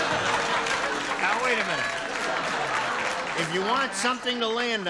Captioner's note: booing